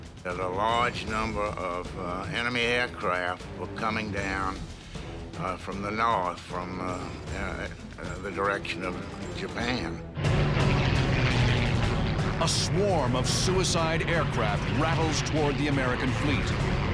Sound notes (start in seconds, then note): 10.0 planes roaring